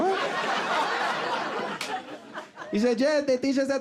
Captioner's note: audience laughing